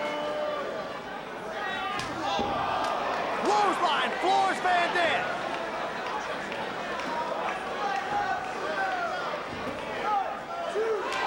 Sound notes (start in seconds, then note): 3.4 spectators exclaiming